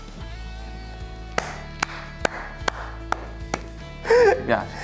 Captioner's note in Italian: applaude